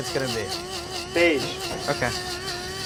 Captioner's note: grinder whirs